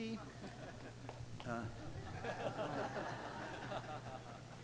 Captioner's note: audience laughing